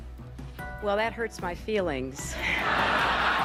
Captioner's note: laughter